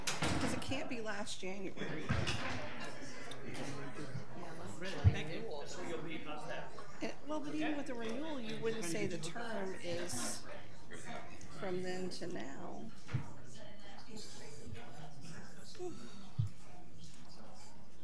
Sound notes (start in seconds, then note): 3.5 people conversing